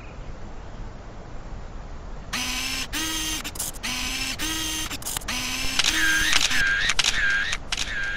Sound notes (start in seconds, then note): 2.3 camera buzz; 6.1 camera shutter